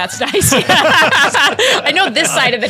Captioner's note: panel laughing